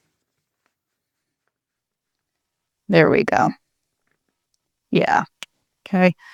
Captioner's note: silence